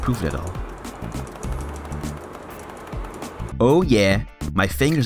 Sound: clicking fast

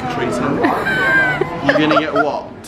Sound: laughing

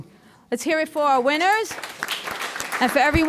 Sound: audience applauding

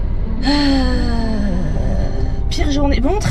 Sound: infinite sigh

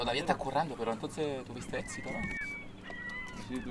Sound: men talking Spanish

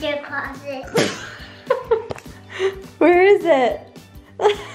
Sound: laughing

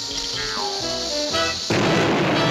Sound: explosion

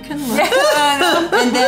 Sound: laughs

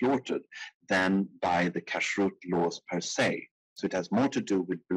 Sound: speaking in foreign language

